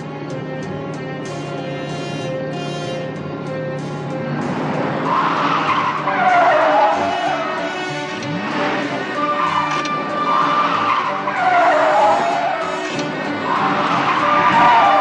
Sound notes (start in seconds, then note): 5.2 tires screeching; 8.5 car engine revving